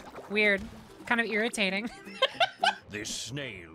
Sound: laughter

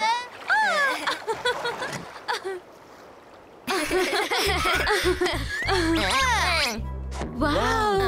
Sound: laughing

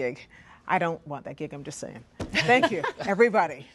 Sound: laughter

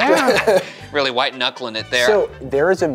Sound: laughing

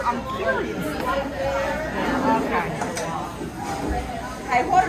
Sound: patrons chattering

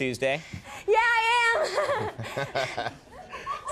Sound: laughs; audience laughing

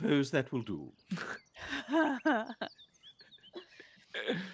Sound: multiple chuckling

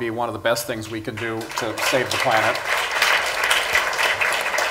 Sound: applause

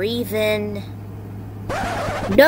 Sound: record scratch

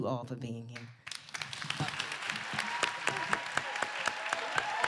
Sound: applause

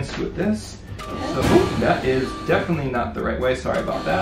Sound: chair whirs

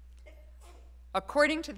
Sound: student sneezes

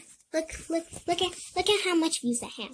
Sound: stuttering

